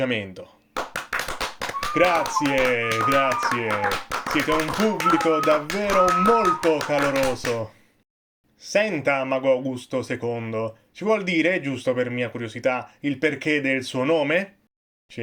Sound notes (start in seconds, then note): 0.7 applause